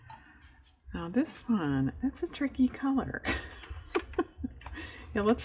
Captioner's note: laughs